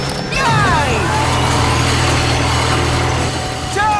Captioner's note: whirring